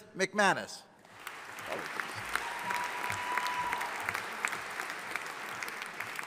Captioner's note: audience applauding